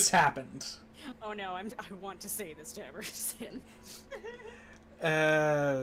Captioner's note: laughs